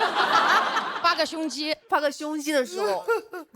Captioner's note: laughs